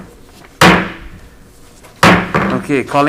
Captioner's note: mallet thudding